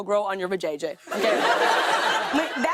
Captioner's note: laughter